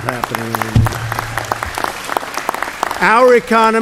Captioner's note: applause